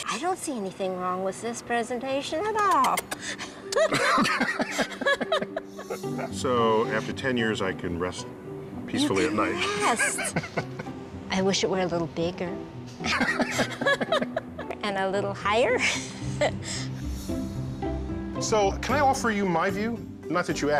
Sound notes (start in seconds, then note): 2.7 kissing; 3.7 both laughing; 13.0 both laugh; 16.1 laughs